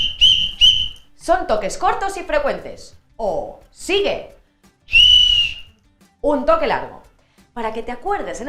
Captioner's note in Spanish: sonido silbato "pi, pi, pi"; sonido silbato "piiiiiii"